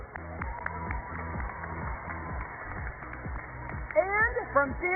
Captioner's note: applause